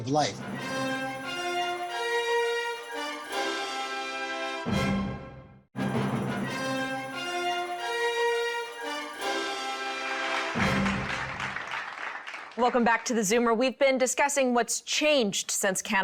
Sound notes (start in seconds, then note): 3.3 dramatic music; 12.0 audience applauds